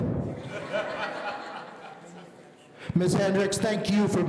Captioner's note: audience laughing